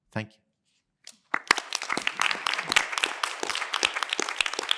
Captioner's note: applause